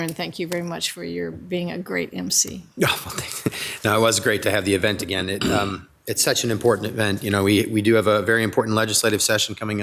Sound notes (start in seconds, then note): 2.8 chuckles